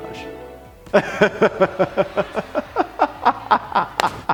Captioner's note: laughing